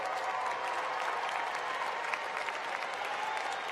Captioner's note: applause